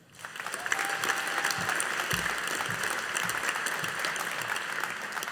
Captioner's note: audience applauding